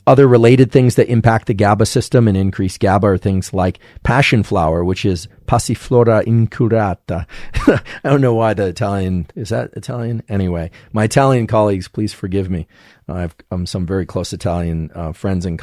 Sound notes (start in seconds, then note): 5.2 speaks in foreign language; 7.4 chuckles